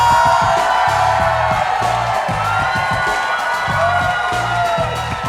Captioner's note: audience cheering